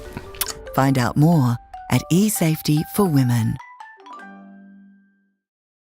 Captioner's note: voiceover